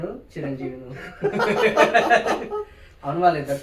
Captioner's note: laughs